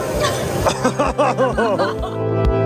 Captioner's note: shutters in disgust lmao